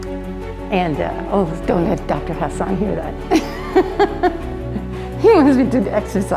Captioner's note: laughs